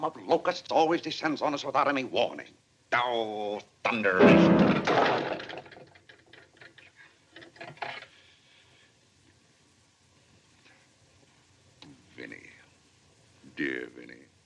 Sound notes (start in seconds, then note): 4.2 slams piano keys; 4.2 thud